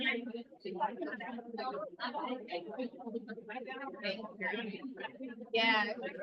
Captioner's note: audience members chattering